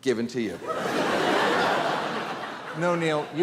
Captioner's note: audience laughing